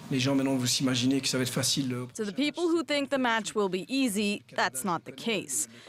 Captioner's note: speaking Alternate Language